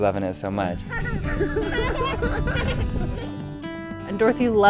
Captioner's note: kid laughter